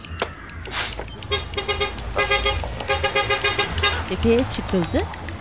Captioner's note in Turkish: Korna sesi